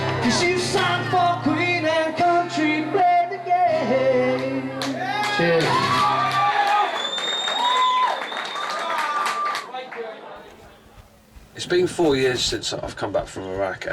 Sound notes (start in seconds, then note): 8.0 audience cheering; 8.0 audience clapping